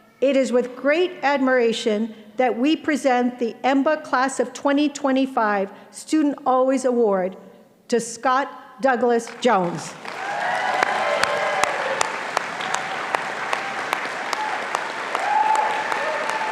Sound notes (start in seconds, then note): 9.9 audience applauding and cheering